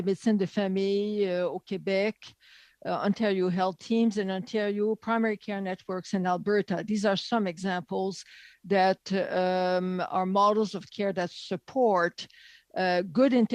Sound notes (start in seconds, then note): 4.6 speaking French